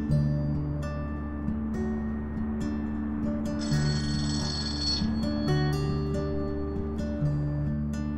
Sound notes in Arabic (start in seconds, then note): 3.6 رنين الهاتف